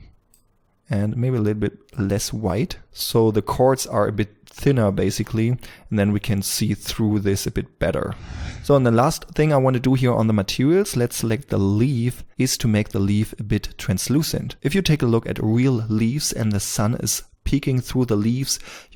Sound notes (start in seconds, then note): 8.1 whoosh